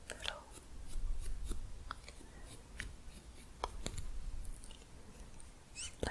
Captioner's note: stroking bristles